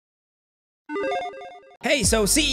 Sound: logo beeps

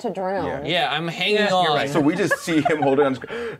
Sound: co-hosts laughing

